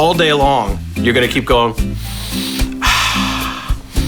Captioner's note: inhales and exhales